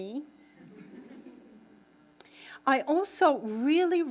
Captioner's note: audience laughing